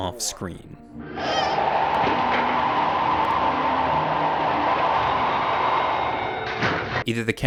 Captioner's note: monster squealing; wind blowing